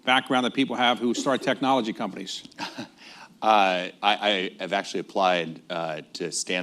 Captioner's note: laughs